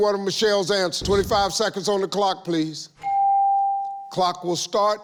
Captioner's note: ding